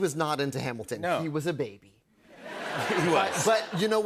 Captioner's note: laughter